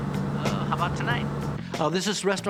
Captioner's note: on phone